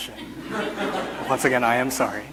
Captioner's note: audience laughs